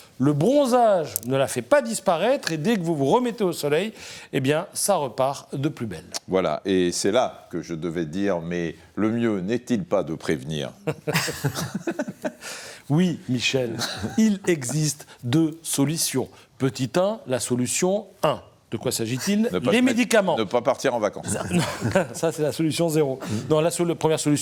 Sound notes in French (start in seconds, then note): 10.8 rires